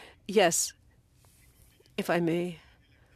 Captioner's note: speaking French